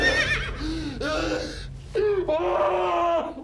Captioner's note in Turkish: Bağırıyor